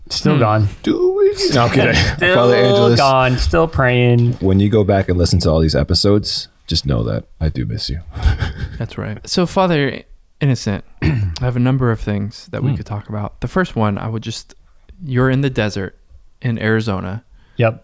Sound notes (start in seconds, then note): 8.1 laughs; 11.0 clears throat